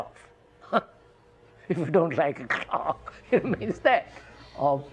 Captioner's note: laughs